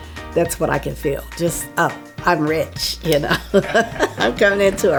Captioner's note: laughing